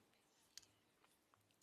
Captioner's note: speaking French